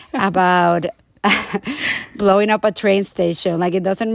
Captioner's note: laughter